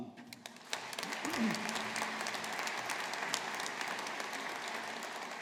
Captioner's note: audience applauding